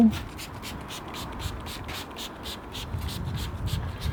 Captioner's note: spraying noises